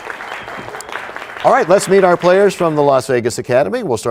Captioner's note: applause